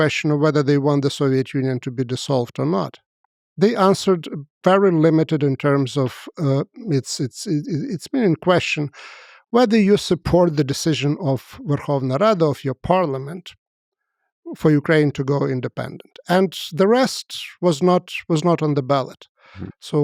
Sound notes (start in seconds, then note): 11.0 speaks foreign language